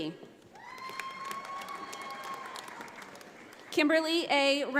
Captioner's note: audience applauds